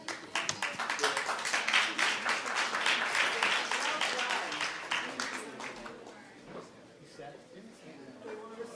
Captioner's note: applause